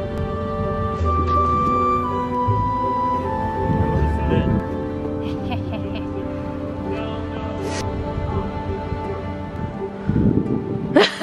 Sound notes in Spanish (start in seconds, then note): 5.2 risas malvadas